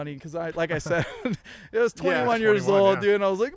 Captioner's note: all laughing